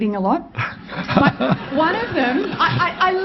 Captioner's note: crowd laughs